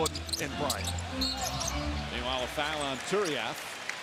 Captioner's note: whistle